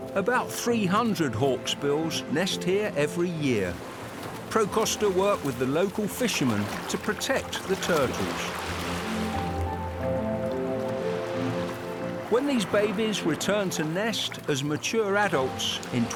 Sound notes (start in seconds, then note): 8.6 waves crash; 11.0 calm music